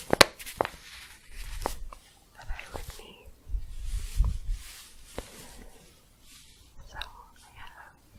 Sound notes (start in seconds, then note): 4.6 staticky shuffling